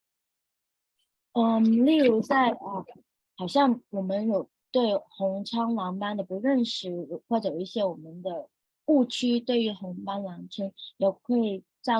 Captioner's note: speaking chinese